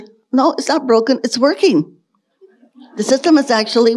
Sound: audience laughing

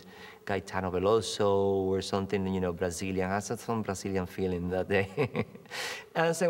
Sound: laughs

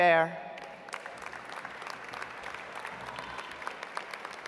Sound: audience applauds

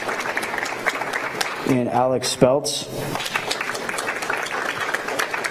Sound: applause

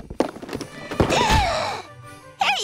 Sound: thudding; gasping

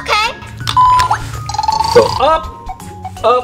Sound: beeping

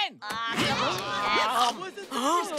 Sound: groaning

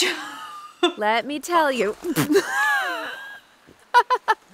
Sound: pbbt!

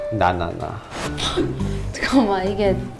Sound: scoffing

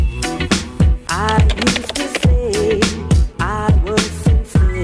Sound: typing

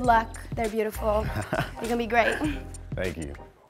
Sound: chuckles

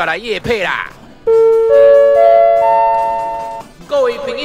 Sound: broadcast sound effect

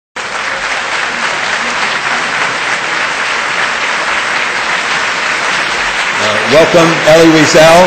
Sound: audience applause

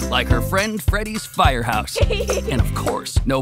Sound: laughter

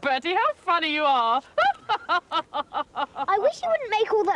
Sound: laughs

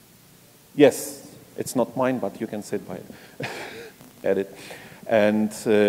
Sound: laugh

